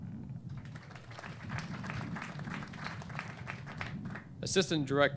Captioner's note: clapping